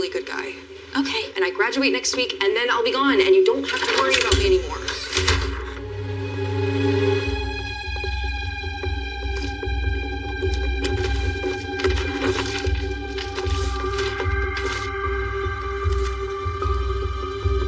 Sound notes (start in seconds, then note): 3.9 doooor slams; 6.2 dramatic mumusic